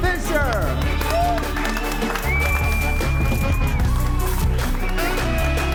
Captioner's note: audience whistles and applauds; upbeat music